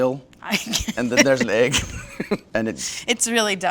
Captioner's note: laughing